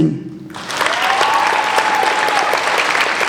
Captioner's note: applauding